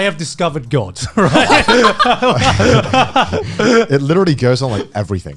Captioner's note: men laugh